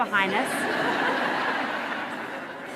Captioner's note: laughter